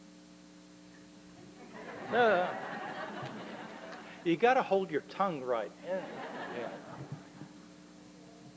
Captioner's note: laughter